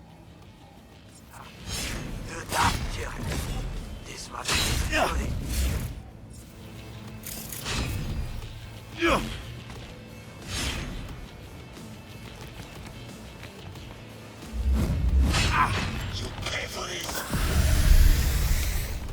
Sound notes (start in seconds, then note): 9.0 grunts